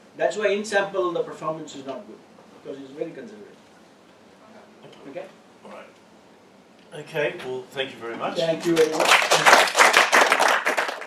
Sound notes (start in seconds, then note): 8.5 applause